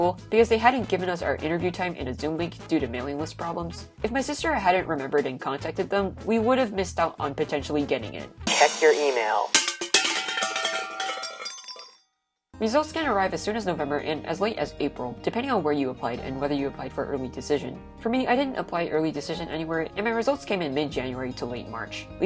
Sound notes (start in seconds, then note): 8.4 cymbal crash; 8.4 tins crashing